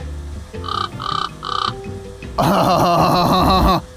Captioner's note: bird Squawking